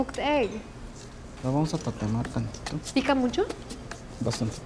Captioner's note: speaking Spanish